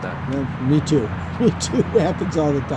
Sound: laughs

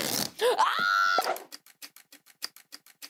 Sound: screams

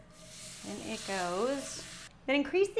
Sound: pan sizzles

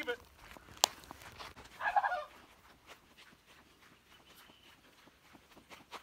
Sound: hysterical laughter

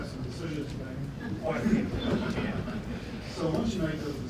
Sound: laughter

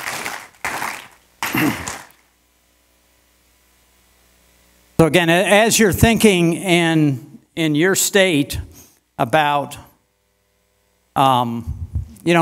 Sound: applause

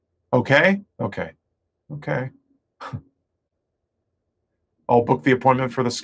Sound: chuckles

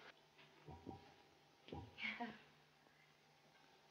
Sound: giggles

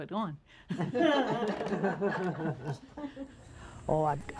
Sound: ladies chuckling

